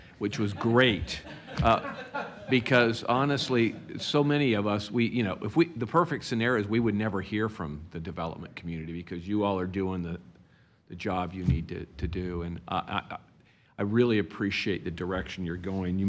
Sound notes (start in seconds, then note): 3.5 laughter